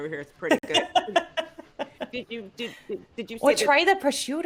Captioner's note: laughing